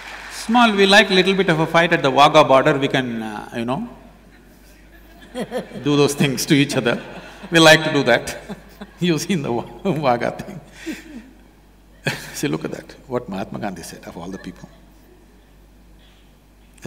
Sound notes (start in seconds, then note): 4.3 laughter; 8.2 laughs